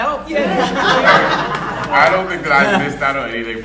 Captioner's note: audience laughing